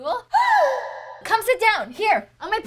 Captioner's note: woman gasping